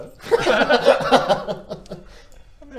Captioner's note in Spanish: risitas nerviosas